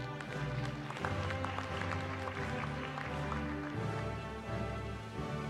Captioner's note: applause